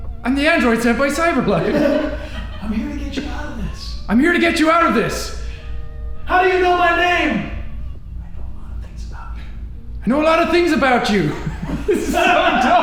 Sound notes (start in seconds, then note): 2.7 whispers; 8.5 whispers